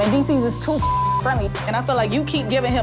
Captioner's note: beep